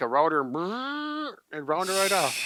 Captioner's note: buzzing noise